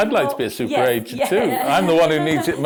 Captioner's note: laughs